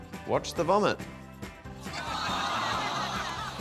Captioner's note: groaning, laughter